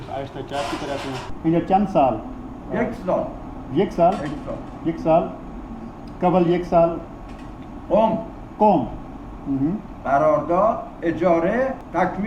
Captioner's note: speaking in Persian